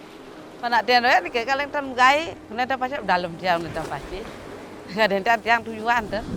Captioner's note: speaks in a foreign language